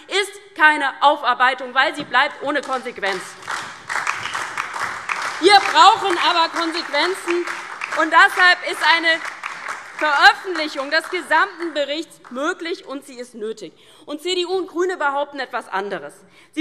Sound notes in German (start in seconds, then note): 3.1 Beifall DIE LINKE und SPD